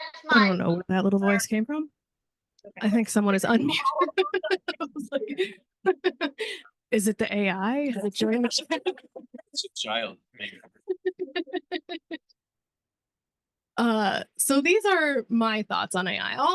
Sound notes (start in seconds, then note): 3.8 laughing